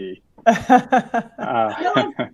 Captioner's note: laughter